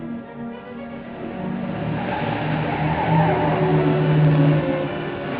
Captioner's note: car accelerating, tires skidding